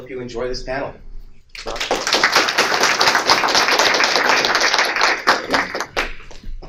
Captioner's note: applause